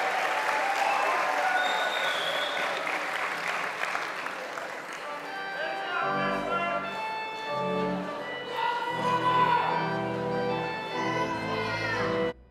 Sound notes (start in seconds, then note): 0.0 applause; 2.4 cheering; 4.0 applause